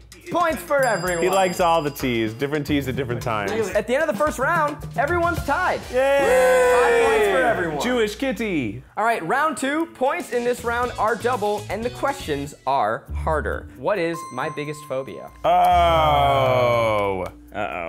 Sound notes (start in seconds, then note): 5.9 cheering